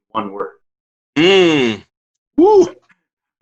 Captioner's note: grunts thoughtfully; exclaims